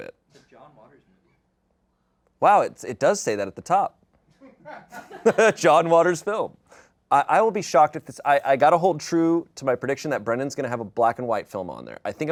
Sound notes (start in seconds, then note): 4.6 audience laughing